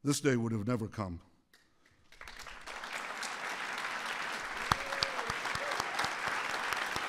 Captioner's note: applause